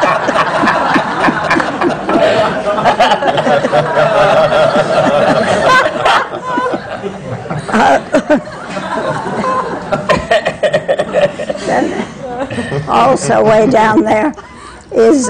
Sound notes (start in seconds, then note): 5.7 laughter